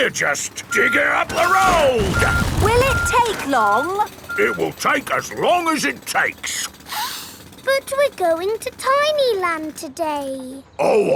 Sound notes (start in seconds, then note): 6.9 sniffs